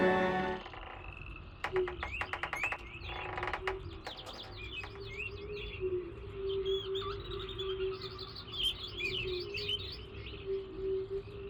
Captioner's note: wood creaking, birds chirping, frogs croaking, wind gently howling